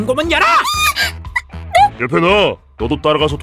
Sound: gasp

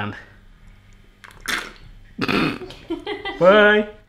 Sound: slurps

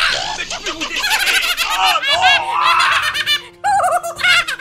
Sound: torture and laughter curel

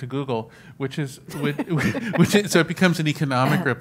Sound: laughs

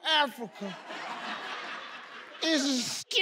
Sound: crowd laughs

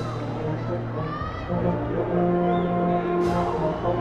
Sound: cheers and applause

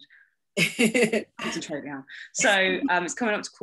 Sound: laughs

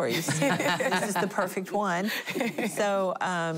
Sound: laughing

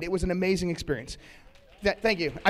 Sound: applause

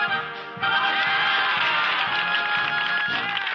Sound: cheering

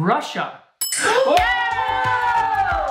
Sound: bell dings

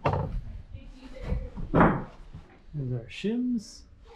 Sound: woman murmuring

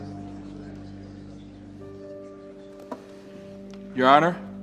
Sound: crowd murmuring

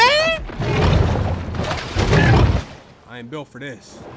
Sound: growling and splashing

